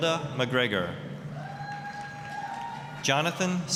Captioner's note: applause, cheering